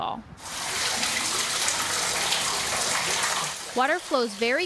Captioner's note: water flowing